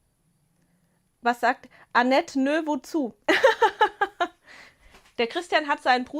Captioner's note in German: Gelächter